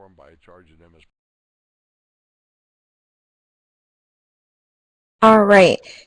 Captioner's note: audio drops